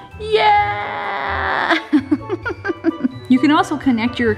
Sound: laughs

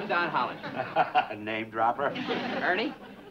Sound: laughs

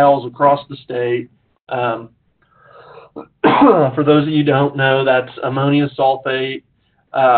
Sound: cough

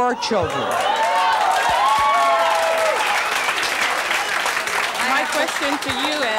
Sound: audience clapping and clapping

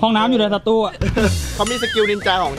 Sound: chuckles

